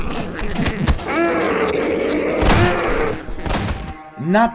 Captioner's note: demonic screeching